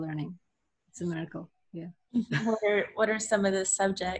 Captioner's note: laughs